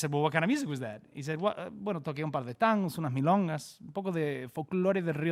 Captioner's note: speaks in Spanish